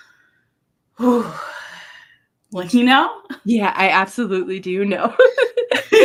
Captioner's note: sigh of relief